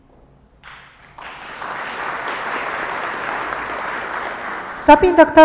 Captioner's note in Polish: oklaski